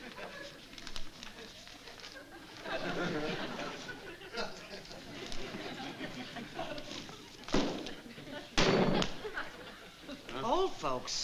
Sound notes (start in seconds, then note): 8.6 slamming